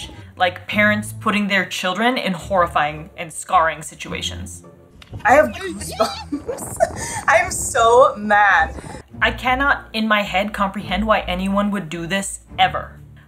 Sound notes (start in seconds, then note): 5.3 laughs